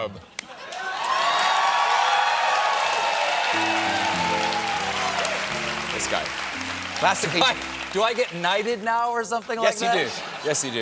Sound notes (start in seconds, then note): 6.2 cheers and applause; 6.2 piano riff